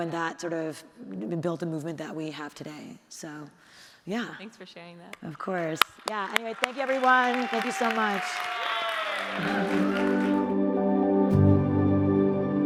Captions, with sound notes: And that sort of built a movement that we have today. So yeah. - Thanks for sharing that. - Of course. Yeah. Anyway, thank you everyone. Thank you so much. (audience cheering) (audience applauding) (gentle music)